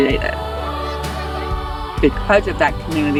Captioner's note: excited shouting